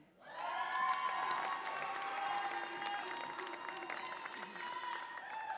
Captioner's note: audience applauds and cheers